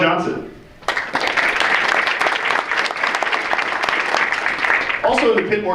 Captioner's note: audience applauds